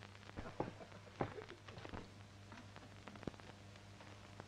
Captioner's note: floor pattering